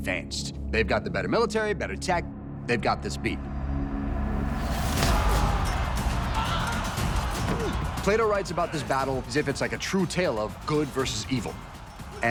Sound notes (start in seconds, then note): 4.6 dramatic music; 5.0 warriors screaming